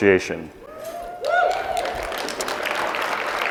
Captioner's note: applause